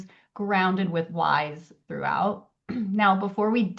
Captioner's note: clears throat